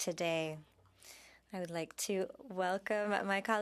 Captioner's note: speaking French